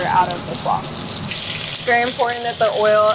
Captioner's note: oil sizzling